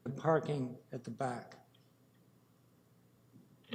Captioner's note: audio drop